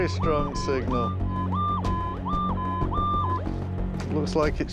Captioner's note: beeping